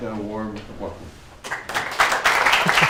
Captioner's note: applause